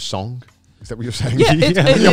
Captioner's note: laughing